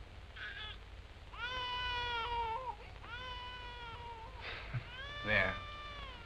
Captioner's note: baby crying